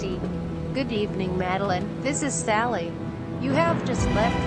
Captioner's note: sat nav female voice